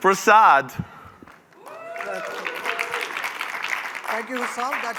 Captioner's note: cheering